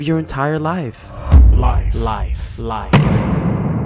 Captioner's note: deep rumble and echo; metallic hit